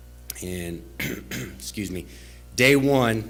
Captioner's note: clears throat